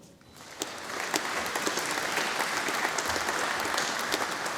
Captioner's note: audience applauding